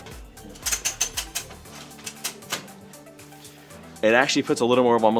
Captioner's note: ratcheting noise